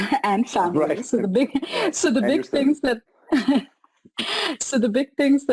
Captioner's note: laughs